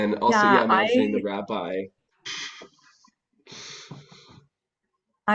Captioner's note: chuckles